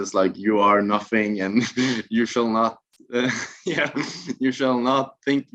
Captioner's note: laughs